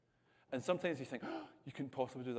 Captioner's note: gasp